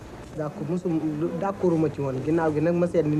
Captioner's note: speech in Wolof